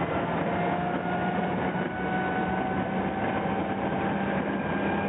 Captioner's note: engine continues rumbling